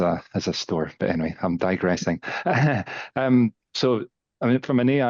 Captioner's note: chuckles